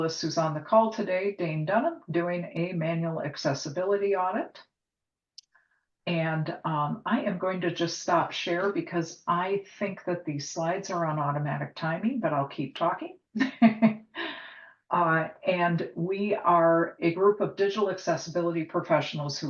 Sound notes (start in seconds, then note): 13.6 laughs